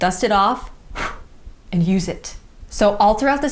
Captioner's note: blows